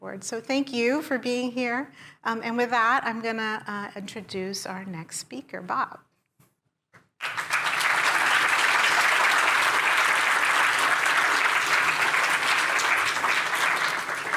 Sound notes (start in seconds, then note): 7.2 applause